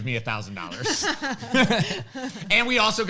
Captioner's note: laughs